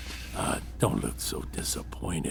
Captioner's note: Chartrulean sighs